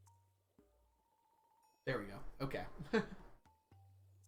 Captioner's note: chuckles